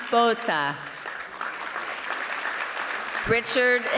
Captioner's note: applause